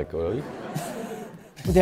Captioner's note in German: Gelächter